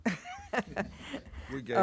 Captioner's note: laughs